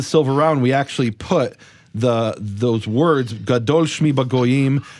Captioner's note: speaks in foreign language